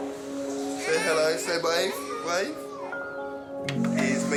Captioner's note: baby murmurs